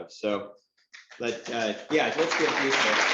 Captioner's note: applause